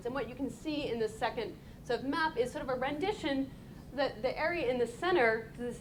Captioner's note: none